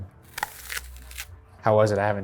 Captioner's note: apple crunching